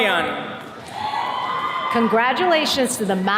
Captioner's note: attendees cheering